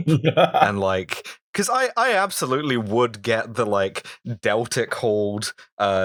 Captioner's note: laughter